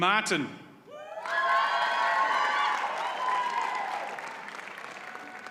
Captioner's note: audience cheers and applauds